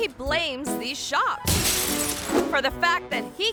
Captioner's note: glass shatters